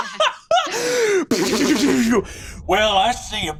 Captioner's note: laughs; vocalizes lazers